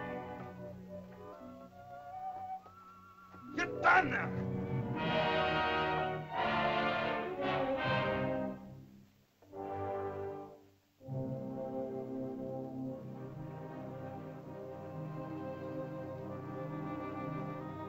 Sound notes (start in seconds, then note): 0.0 Akhoba angrily speaks in caveman language; 0.2 soft music; 3.4 Akhoba angrily speaks in caveman language; 5.3 dramatic music; 13.0 soft ominous music